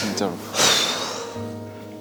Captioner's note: sigh